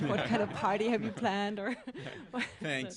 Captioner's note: laughter